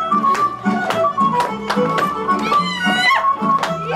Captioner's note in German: Sie juchzen